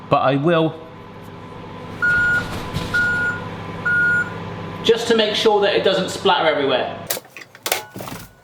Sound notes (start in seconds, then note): 1.9 reversing sensor beeps